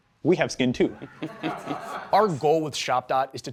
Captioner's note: judges laugh